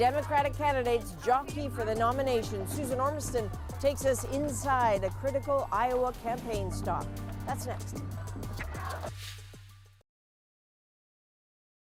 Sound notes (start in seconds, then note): 2.6 chanting